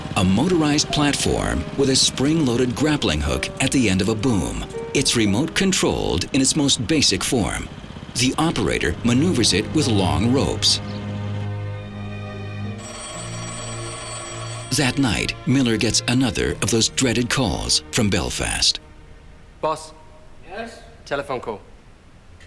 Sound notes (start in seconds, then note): 12.6 phone rings